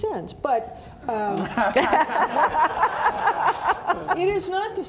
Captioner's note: audience laughing